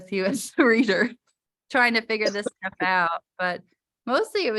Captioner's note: laughter